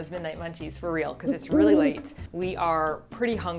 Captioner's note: 𝘖𝘸𝘭 𝘩𝘰𝘰𝘵